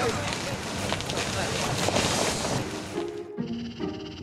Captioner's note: speaking in foreign language; tree crunching; upbeat music